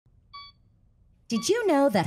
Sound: monitor beeps

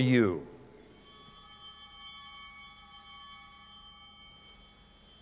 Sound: bells ringing

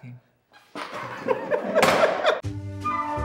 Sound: laughs

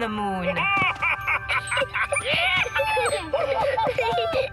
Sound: excited laughter

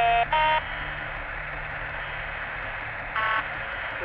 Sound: static

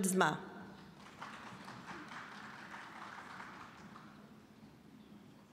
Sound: scattered applause

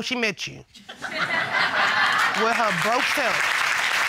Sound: audience laughing, applauding

